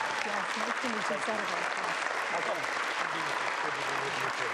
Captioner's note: applause